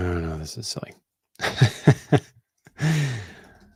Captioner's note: chuckles